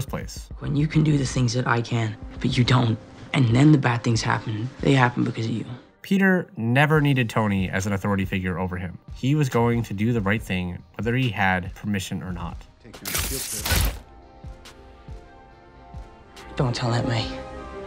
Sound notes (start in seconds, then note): 13.0 THWIP sound